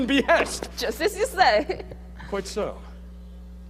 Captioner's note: laughing